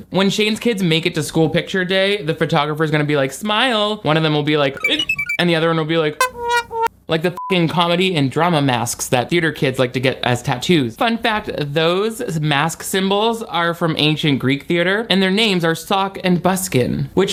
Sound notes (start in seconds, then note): 6.2 beep